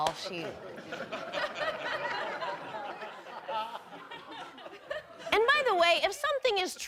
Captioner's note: audience laughing